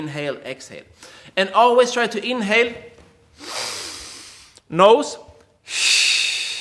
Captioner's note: air hisses; air hisses